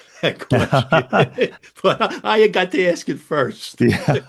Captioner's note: both laugh